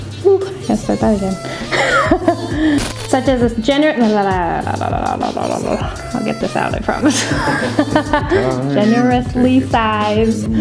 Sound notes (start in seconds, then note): 1.2 laughs; 8.1 laughs